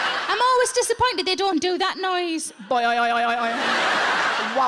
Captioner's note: audience laughs; imitates penis boinging; audience laughs